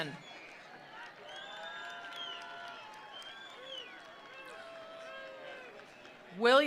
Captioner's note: attendees applauding; attendees cheering